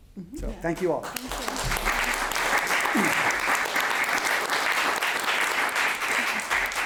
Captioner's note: audience applauding